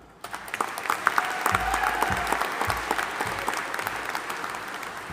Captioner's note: audience applauding and cheering